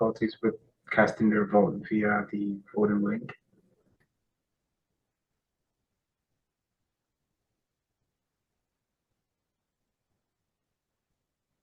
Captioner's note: pause